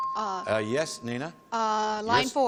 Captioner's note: chimes